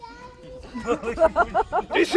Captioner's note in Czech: smích diváků